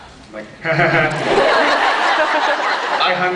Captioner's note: laughs